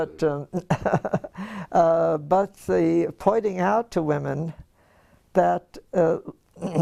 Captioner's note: laugh